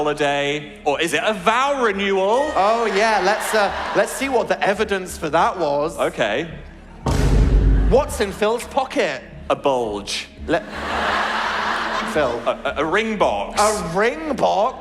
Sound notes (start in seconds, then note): 10.6 audience laugh